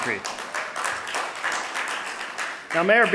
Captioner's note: audience applauding